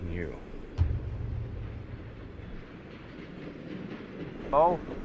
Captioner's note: train rumbles in distance